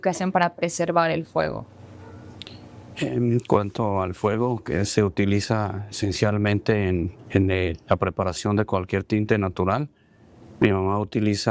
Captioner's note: translator and speaking spanish